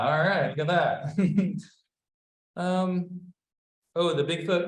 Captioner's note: laughs